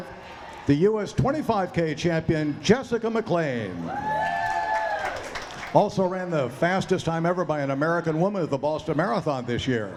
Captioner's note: cheering